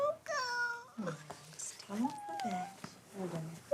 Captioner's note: child whines